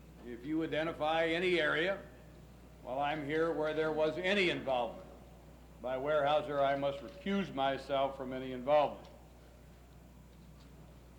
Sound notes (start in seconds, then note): none